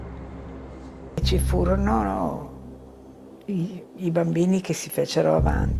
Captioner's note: speaking in foreign language